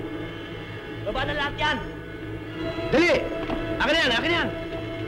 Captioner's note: speaking filipino